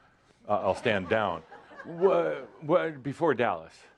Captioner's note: a few chuckles as he steps off the stage